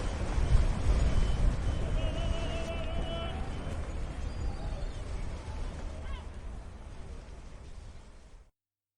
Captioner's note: sound of the wind